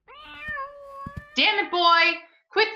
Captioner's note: cat growling